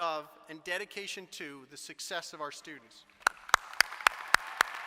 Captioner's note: applause